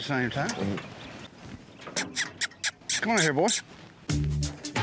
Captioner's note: makes squeaky sound